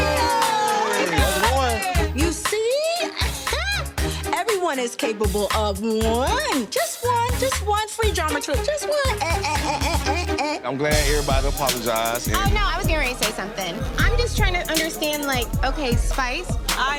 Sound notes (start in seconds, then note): 0.0 audience cheering; 9.6 exclaiming